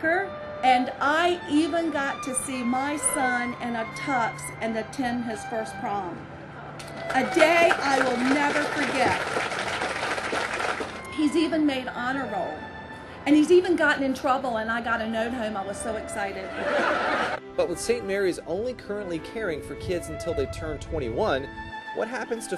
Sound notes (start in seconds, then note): 6.9 applause; 16.6 laughter